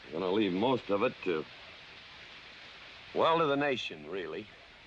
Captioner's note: none